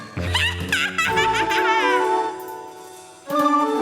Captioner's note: cackles